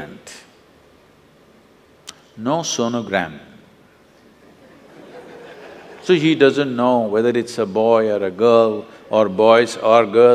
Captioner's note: laughter; 笑聲